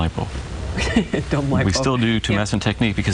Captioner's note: laughs